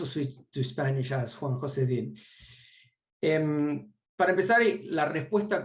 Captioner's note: speaks Spanish